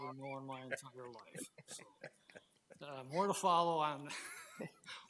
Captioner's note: trustees chuckling; laughs